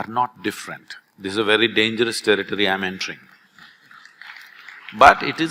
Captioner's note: few applaud